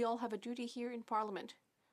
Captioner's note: speaking French